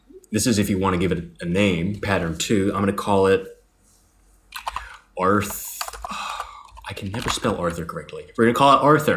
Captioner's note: sigh